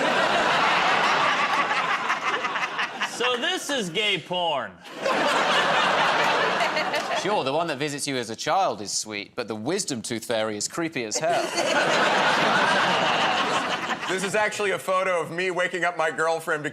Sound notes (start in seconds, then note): 0.0 laughter; 4.8 laughter; 11.2 laughter